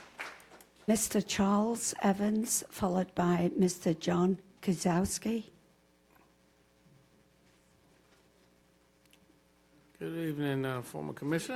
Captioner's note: applause